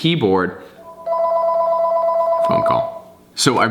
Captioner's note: rings